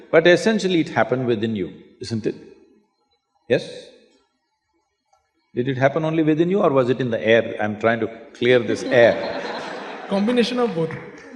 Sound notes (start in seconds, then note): 8.4 laughter